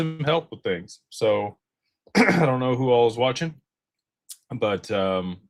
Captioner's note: clears throat